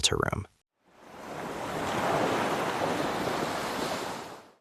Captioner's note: ocean waves